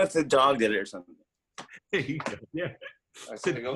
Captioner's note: laughing